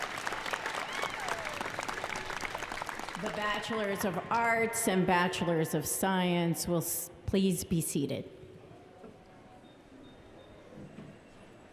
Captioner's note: applause